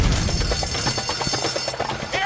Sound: alarm blaring

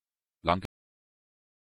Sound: fast Pronunciation

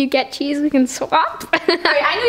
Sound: laughs

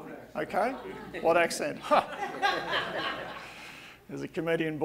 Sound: audience laughing

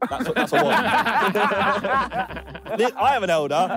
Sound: all laughing

